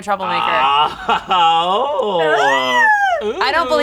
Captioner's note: laughing